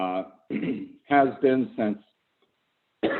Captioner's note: coughs